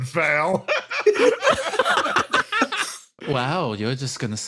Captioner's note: laughs